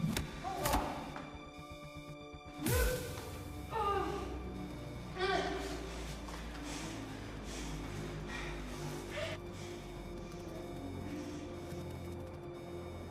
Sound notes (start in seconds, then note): 0.2 blows thudding; 3.3 Maeve groaning; 3.3 tense music; 12.8 alarm wailing; 12.8 tense music continues